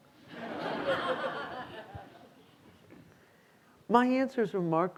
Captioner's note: students laughing